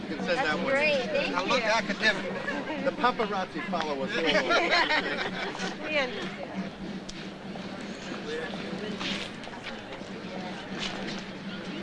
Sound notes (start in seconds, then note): 4.1 group laughs; 4.6 slow drum playing; 5.9 overlapping chatter